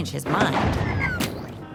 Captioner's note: thunder; splat